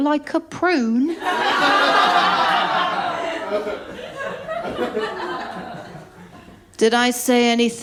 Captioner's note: laughter